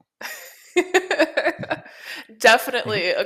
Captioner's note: laughter